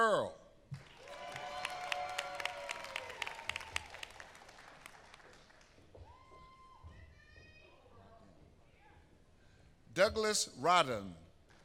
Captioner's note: applause